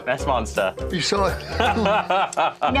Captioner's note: laughter